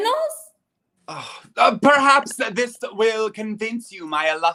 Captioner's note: sighs